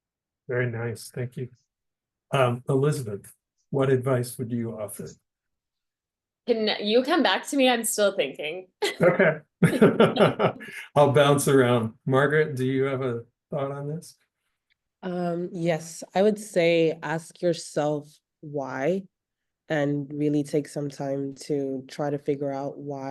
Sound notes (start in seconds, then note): 9.6 laughter